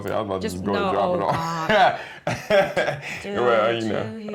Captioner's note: laughter